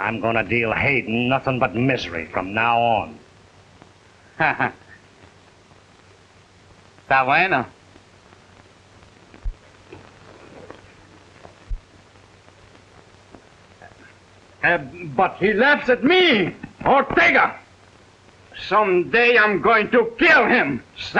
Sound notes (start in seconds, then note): 4.3 laughs; 7.4 speaking in Spanish